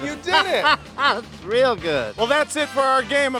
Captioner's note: laughs